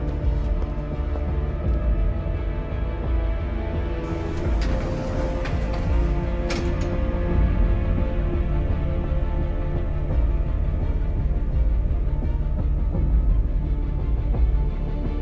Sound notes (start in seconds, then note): 2.8 slow music continues; 4.0 elevator rattles; 10.3 slow orchestral music